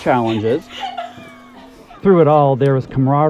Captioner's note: laughter